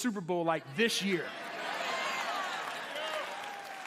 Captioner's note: cheers and applause